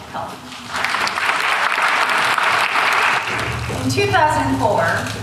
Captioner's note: applause